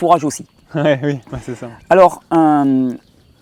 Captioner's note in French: rires